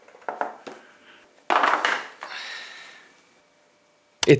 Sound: box clanking

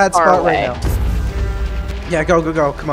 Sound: explosions

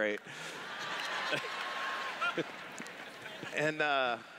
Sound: laughter

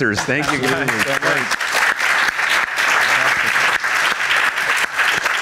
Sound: audience applauding

